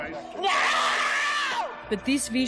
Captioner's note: screaming